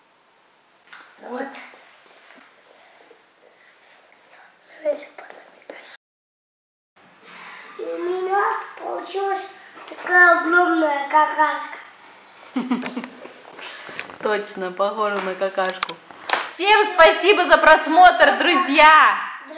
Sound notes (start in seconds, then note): 12.5 laugh